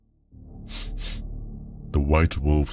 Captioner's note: sniff sniff